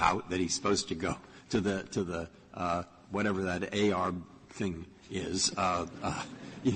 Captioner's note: laughter